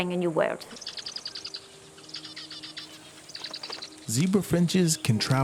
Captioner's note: birds warble